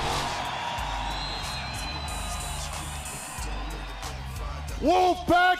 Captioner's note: crowd cheering